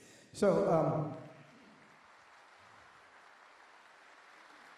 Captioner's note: applause